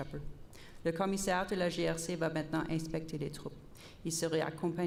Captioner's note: repeated in French